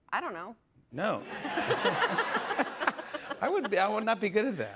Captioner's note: laughter